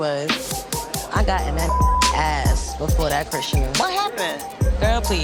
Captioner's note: beep